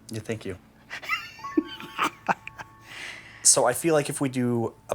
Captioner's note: laughing